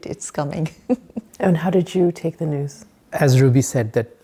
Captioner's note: chuckling